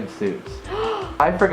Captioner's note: gasps